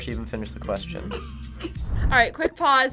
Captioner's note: laughs